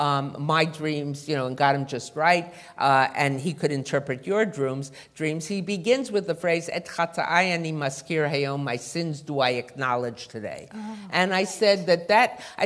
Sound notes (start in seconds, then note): 7.2 non-english speech